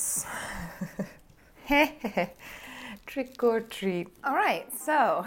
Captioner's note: laughing